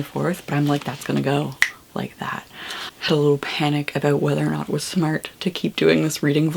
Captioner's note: snaps